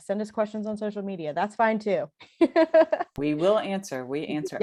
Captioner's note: laughter